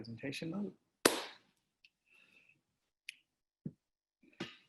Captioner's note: claps hands